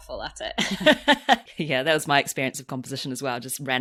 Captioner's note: laughs